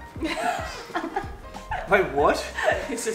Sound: giggles

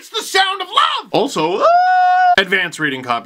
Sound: excited scream

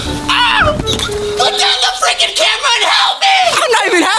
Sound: screaming

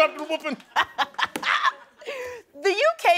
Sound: laughing

